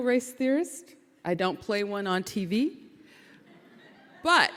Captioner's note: audience laughing